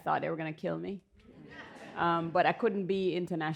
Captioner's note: laughter